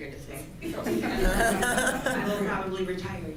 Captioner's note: laughing